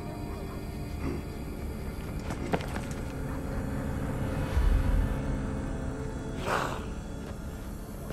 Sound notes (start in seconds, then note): 6.1 wolf howl